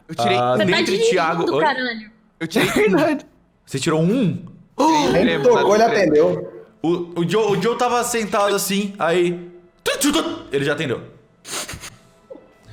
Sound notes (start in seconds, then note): 8.9 phone ringing noise; 12.0 laughs